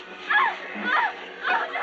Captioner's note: crying